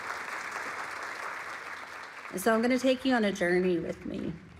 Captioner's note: audience clapping